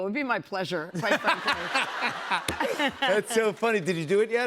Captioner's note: laughter